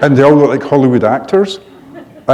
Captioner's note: laughter